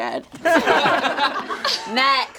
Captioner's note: all laugh